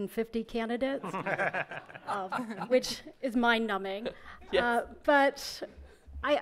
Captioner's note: members laugh